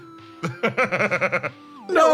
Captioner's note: laugh